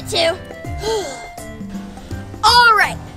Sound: Gabby Gabby sighs

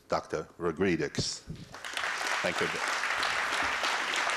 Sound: applause

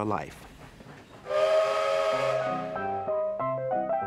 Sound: train whistle blows; jaunty piano music

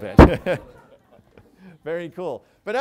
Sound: laughter

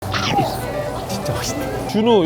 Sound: chewing

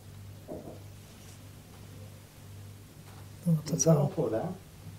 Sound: gentle knocking

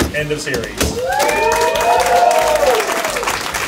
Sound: cheers

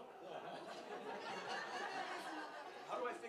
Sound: laughter

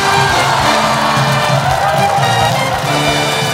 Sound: bell dings

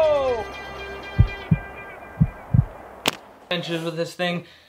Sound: heart beating

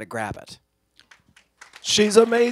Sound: applause

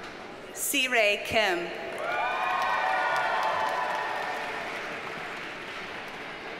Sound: audience cheers and applauds

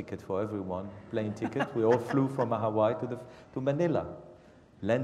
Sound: laugh

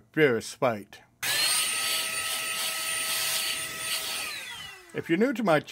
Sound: air blower

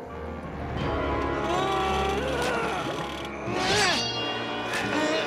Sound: grunting

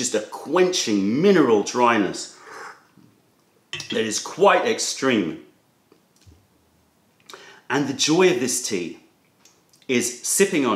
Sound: sips tea

